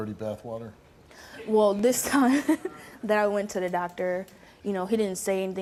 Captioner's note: laughs